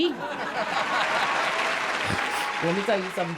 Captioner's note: audience laughing